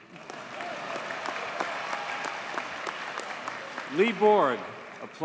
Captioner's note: audience cheers and applauds